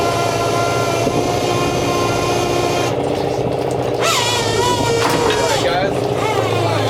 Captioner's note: motor whirring